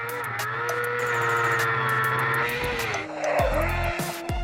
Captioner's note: engine roaring